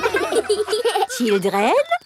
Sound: children laughing

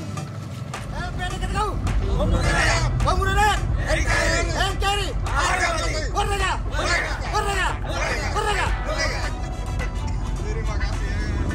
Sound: group cheering

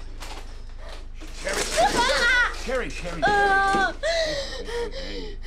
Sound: screaming

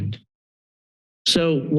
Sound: pause

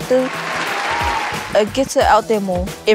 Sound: applause

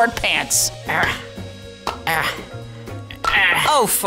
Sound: grunts

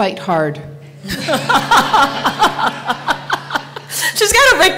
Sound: laughter

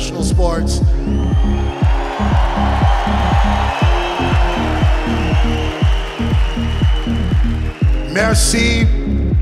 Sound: applause

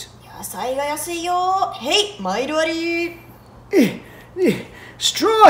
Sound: market patrons speaking in Japanese

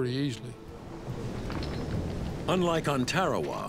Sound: waves swishing

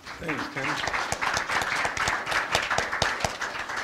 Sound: applause

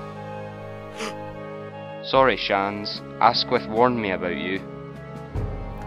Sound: gasp

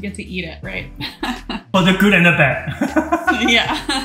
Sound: laughs softly

